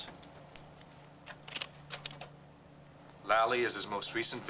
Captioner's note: slide projector clicking